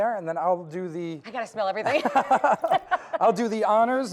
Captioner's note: laughing